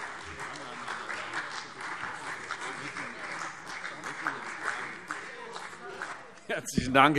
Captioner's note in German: Beifall CDU und vereinzelt Freie Demokraten